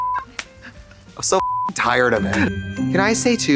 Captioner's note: beep; festive chime